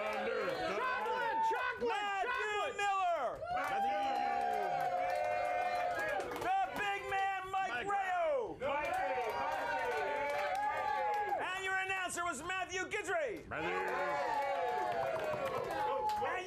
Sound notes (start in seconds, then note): 0.0 audience cheering; 13.5 audience cheering